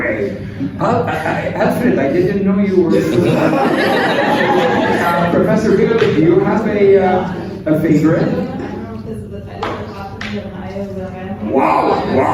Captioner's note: laughter